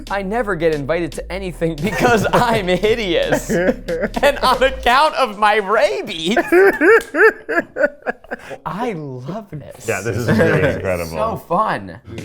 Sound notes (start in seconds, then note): 7.3 all laughing